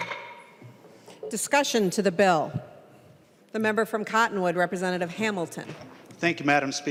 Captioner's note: gavel